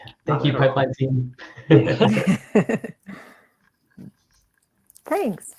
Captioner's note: speakers laughing